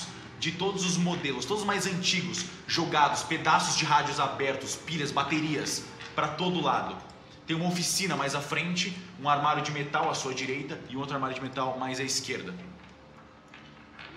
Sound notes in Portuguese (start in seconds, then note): none